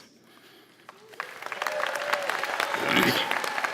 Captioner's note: applause